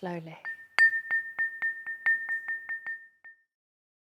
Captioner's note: dings